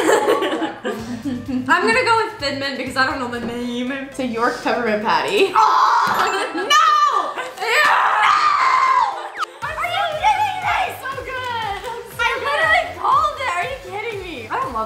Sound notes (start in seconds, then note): 6.2 groans; 7.7 bell dings